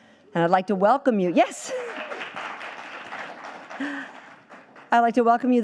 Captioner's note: audience applauding